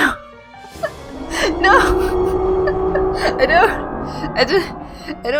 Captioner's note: metallic roar